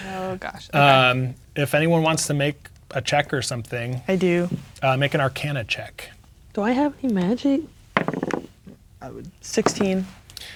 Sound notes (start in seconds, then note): 7.9 dice rolling